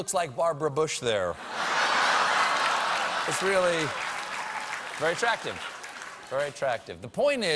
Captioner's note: laughter